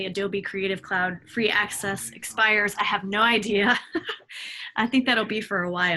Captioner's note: laughs